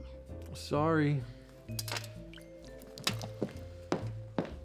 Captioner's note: liquid splashing